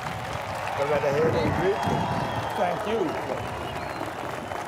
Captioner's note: audience cheering and applauding